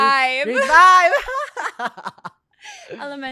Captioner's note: laughs